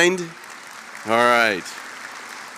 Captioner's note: applause